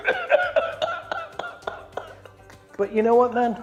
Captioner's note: laughing